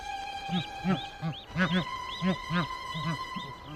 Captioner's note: soft thud of baby geese landing; adult geese honking; soft playful music